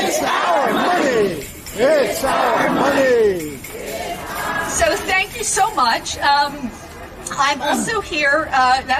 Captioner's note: chanting